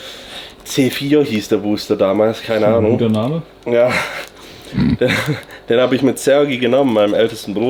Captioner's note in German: schnauben